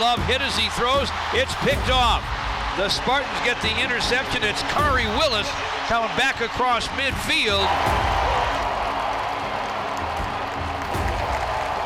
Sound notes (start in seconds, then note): 7.9 crowd cheers